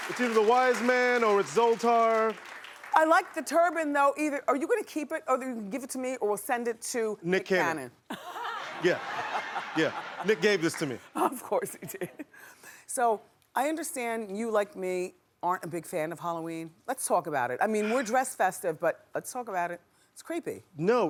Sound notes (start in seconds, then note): 8.1 laughing